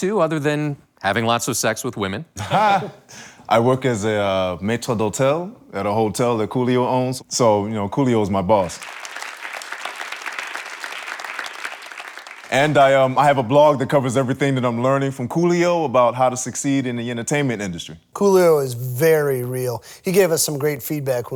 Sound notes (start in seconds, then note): 8.7 audience applauds